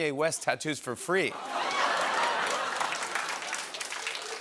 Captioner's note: laughter and applause